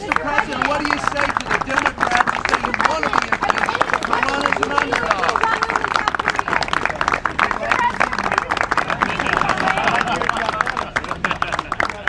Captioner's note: applause